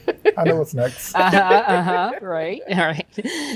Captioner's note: everyone chuckles